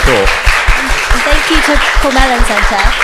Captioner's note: audience applauds